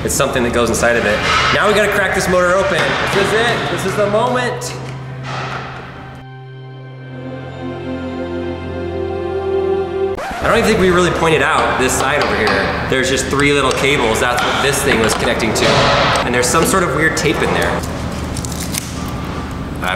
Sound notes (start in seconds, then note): 0.6 hammering; 4.7 dramatic orchestral music; 10.2 record skidding; 17.5 tape peeling